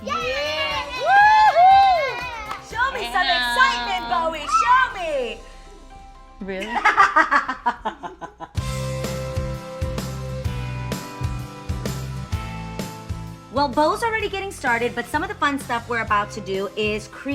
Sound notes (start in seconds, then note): 6.6 Adrienne laughs; 8.7 cheerful music